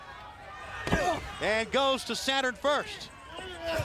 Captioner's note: crowd chatter